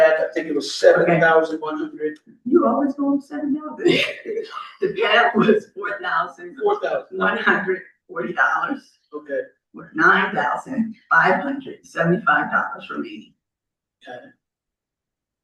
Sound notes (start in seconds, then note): 3.8 laughter